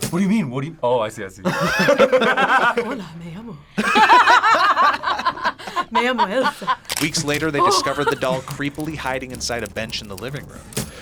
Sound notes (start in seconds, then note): 1.4 both laugh; 7.7 laughs